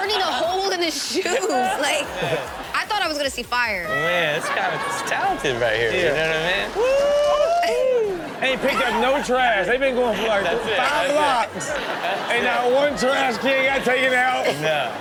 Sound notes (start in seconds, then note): 7.0 all cheer